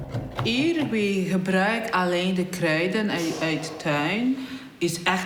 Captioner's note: speaking in foreign language